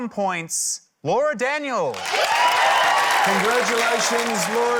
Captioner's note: cheering, applause